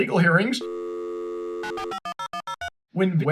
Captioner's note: phone dialing tone